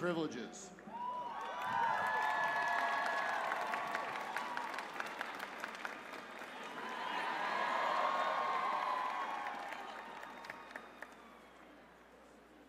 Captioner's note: cheers and applause